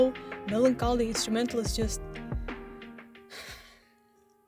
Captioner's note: sigh